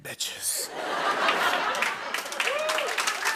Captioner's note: laughter and applause